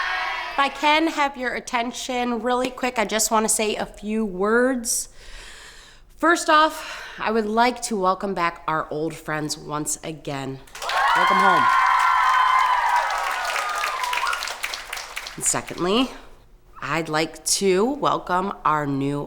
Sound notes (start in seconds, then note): 10.7 campers applauding; 10.7 campers cheering